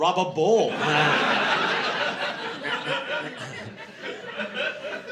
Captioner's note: laughter